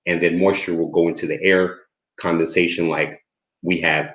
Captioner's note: none